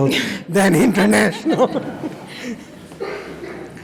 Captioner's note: laughs